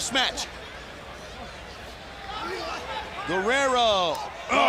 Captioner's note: crowd chatter